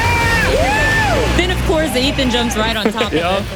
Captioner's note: laughs